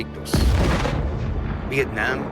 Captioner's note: bomb explodes